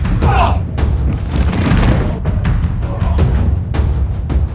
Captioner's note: men groan